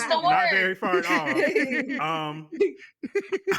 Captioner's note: laughing